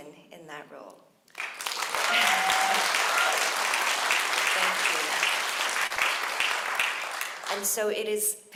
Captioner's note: applause